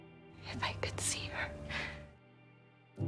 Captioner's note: voiceover; whispering